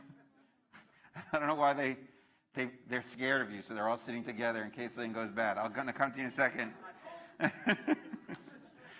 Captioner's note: laughter